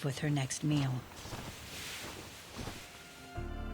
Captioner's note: wings flapping